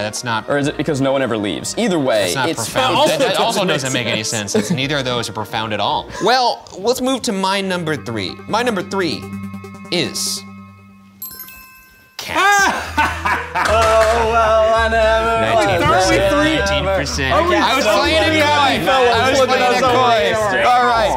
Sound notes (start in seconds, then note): 12.4 laughing